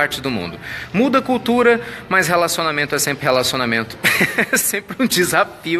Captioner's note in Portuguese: risos